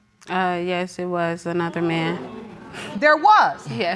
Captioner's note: audience exclaims